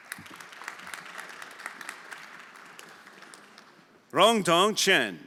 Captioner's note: everyone applauding